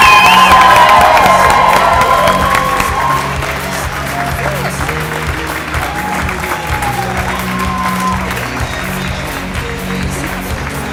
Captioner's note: applause